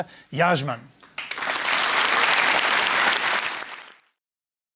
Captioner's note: applause